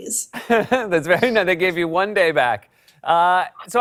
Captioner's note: laughs